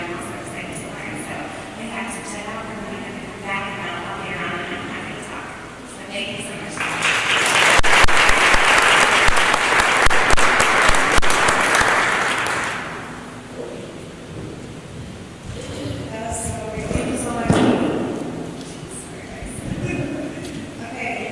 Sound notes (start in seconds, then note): 9.2 applause